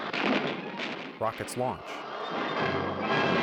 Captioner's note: rockets launch